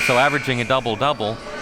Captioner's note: buzzer blaring